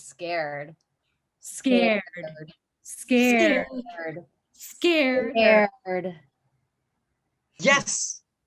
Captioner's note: chanting